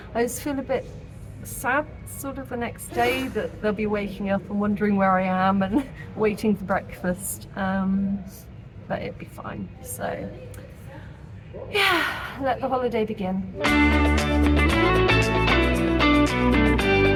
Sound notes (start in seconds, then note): 11.7 sigh; 13.6 upbeat music